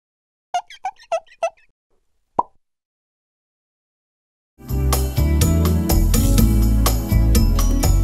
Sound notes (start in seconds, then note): 0.5 marker squeaking; 2.4 pop